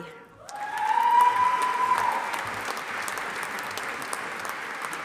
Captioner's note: audience applauding